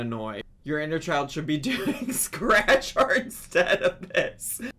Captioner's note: chuckles